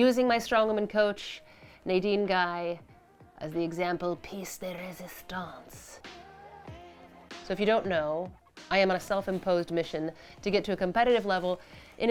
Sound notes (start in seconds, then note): 5.3 said in french accent